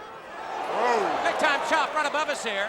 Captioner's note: audience exclaiming